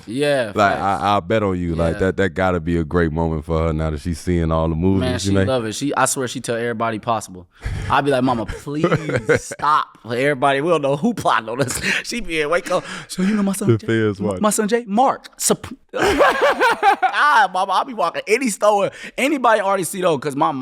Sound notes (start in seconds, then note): 8.0 laughing; 15.9 laughing